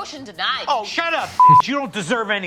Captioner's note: beep